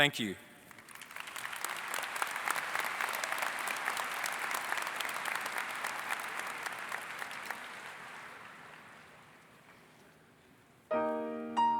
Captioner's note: applause